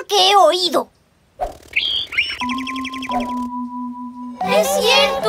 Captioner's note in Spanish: Sonido de pájaro